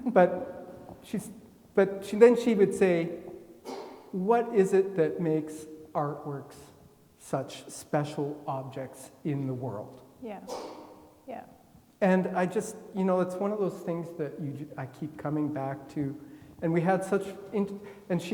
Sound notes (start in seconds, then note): 3.6 attendee coughing; 10.4 attendee coughing